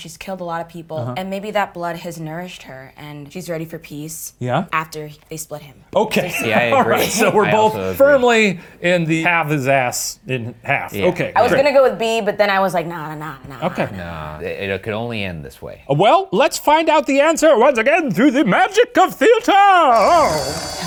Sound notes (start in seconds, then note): 6.2 laughing